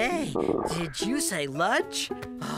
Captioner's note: tummy Growling